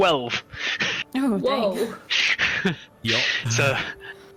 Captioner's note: laughs